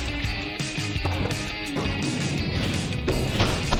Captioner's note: pumpkins thudding